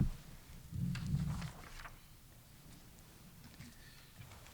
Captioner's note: page shuffling